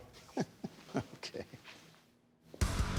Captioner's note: laughing